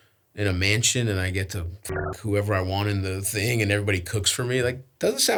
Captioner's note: beeps